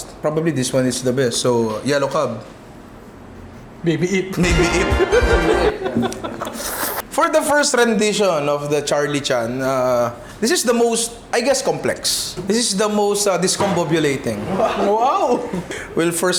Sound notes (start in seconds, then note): 5.0 laughs